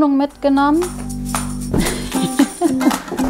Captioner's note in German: Lachen